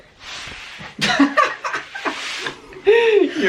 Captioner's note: laughter